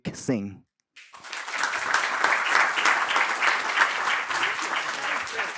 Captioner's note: applause and cheering